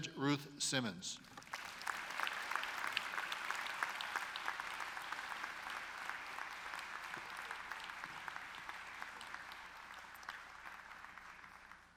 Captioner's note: applause